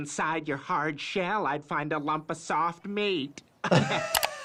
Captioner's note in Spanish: risas; se ríe